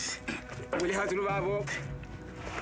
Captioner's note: Portuguese spoken audio